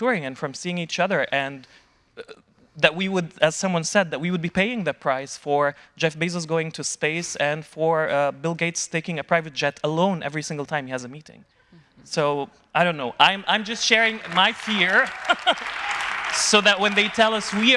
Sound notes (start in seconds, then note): 15.0 chuckling; 15.1 audience applauding